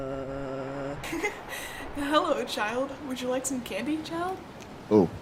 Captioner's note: giggling